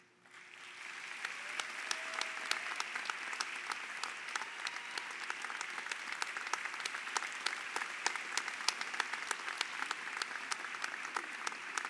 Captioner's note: applause